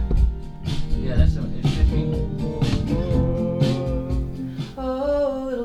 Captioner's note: speaking faintly